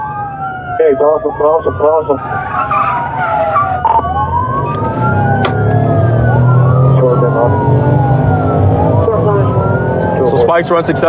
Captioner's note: radio ctter